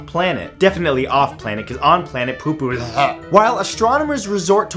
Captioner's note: gags